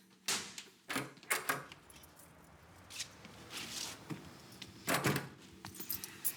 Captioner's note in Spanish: Sonido al abrir la puerta